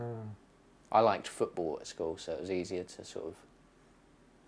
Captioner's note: none